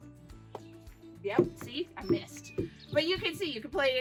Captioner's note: ball bouncing